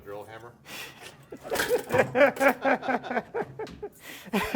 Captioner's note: laughing